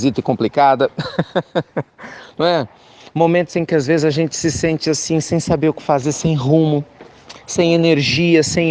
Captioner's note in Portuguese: Risos